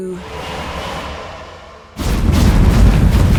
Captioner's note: magical whirring; portal rumbles